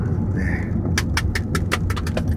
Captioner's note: clap clap; clap clap clap; clap clap clap clap; clap clap clap clap clap; clap clap clap clap clap clap; clap clap clap clap clap clap clap; clap clap clap clap clap clap clap clap; clap